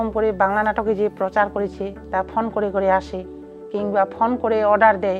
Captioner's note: speaking foreign language